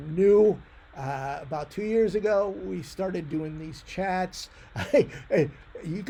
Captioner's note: laughs